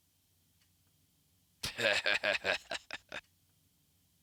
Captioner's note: Hux laughs evilly